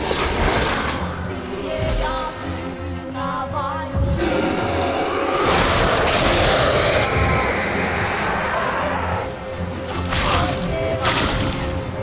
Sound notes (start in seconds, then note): 7.1 raspy screech